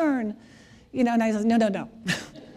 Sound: laughter

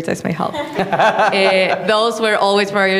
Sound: audience laughing

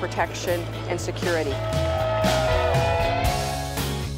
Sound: cheers

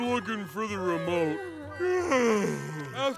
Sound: yawns

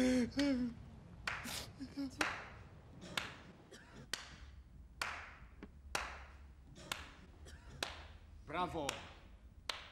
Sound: slow clapping

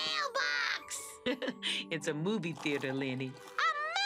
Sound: chuckles

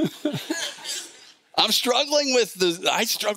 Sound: laughs

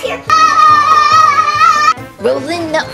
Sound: screams

